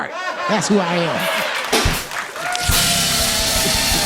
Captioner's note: cheers and applause